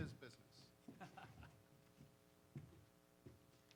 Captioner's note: laughs